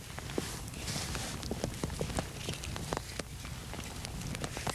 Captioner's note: fire crackling